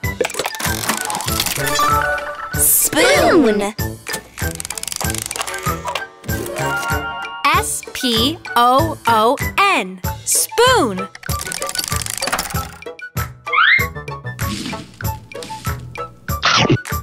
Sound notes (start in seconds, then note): 4.4 mechanical whirring; 14.4 crunching